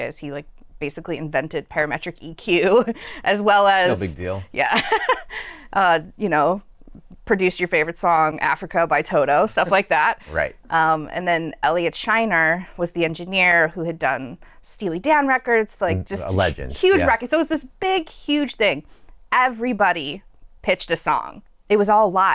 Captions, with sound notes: he basically invented parametric EQ [LAUGHTER] as well as [LAUGHTER] produced your favorite song, "Africa" by Toto, stuff like that. Then Elliot Scheiner was the engineer who had done Steely Dan records, just huge records. It was this big, huge thing. Everybody pitched a song. It was all live.